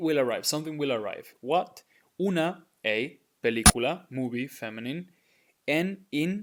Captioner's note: speaking in Spanish